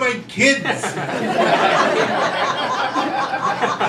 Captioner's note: crowd laughing